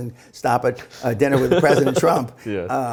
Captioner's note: laughing